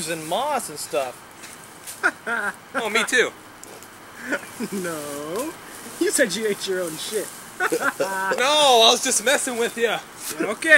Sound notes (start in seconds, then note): 2.0 Dwight chuckling; 4.7 laughs